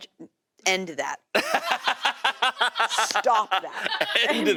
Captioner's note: laughter